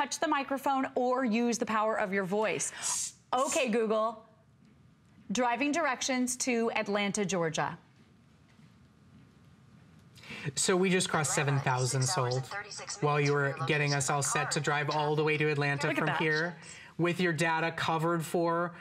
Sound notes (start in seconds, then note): 17.6 electronic voice